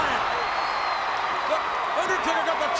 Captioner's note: audience cheers